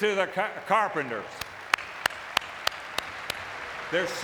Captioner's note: audience clapping